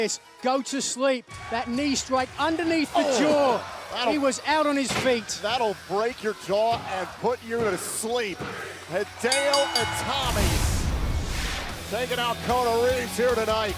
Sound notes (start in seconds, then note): 9.2 bell ringing